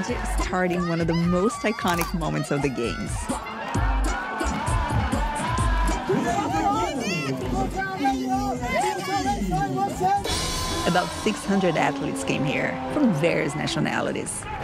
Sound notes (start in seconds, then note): 3.2 cheering